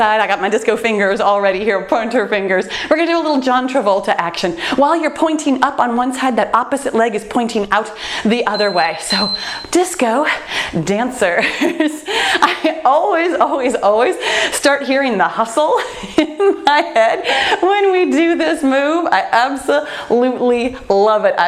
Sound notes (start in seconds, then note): 8.4 timer beeps; 11.4 laughs; 15.9 laughs